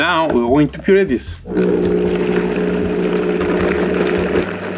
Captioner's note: blender whirring